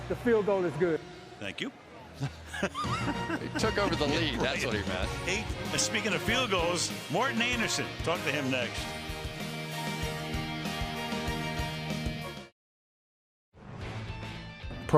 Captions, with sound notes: Correction, the field goal is good. Thank you. [laughing] They took over the lead. That's what he meant. Speaking of field goals, Morten Andersen, talk to him next. [theme music]